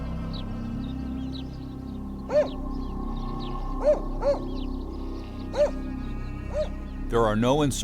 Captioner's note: dog barking; voiceover